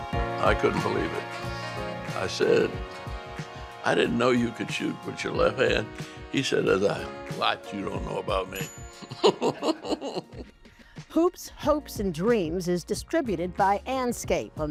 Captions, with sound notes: I couldn't believe it. I said, "I didn't know you could shoot with your left hand." He said, "There's a lot you don't know about me." - [bell chimes] - [laughs] "Hoops, Hopes & Dreams" is distributed by Andscape,